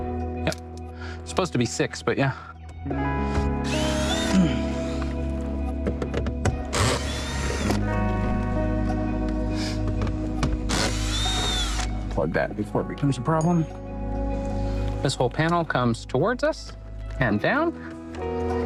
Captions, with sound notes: Yep, supposed to be six, but yeah. (drill sounds) (upbeat music) Unplug that before it becomes a problem. This whole panel comes towards us and down.